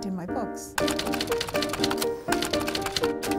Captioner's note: typing